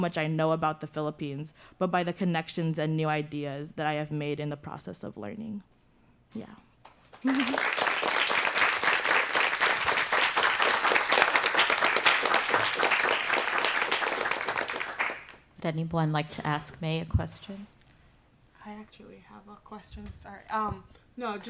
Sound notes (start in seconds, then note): 8.6 applause